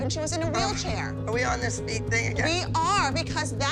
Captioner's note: groans